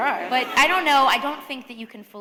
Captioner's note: laughter